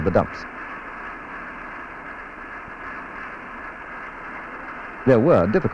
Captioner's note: sound of machinery